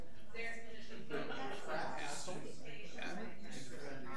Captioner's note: people chattering